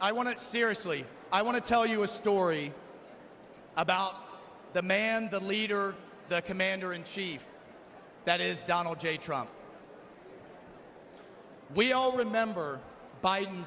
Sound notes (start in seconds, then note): none